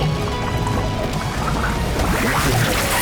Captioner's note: gurgling